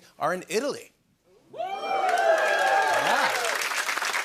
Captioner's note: cheering and applause